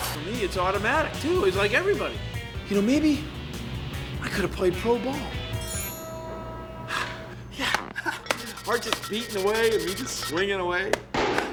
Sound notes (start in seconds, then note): 6.9 exhales; 7.5 chuckles